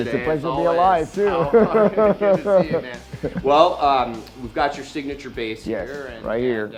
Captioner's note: laughs